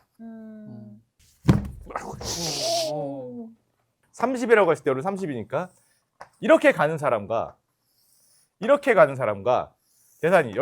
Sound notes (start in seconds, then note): 1.5 sound of staff being surprised